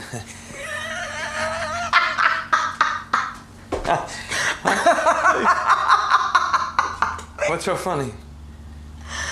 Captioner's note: laughs hysterically